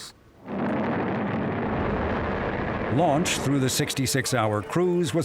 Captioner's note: rocket roaring